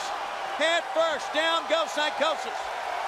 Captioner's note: crowd cheering